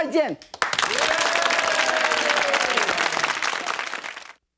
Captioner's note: audience clapping and cheering